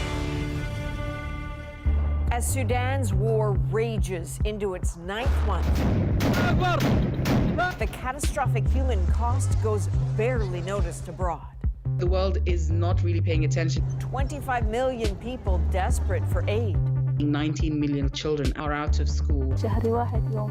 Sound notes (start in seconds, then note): 8.1 bombing